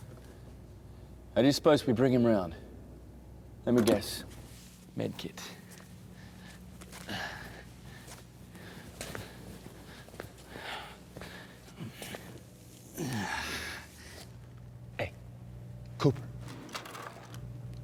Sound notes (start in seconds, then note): 7.0 Robert sighs; 10.7 pants lightly; 15.0 low tone voice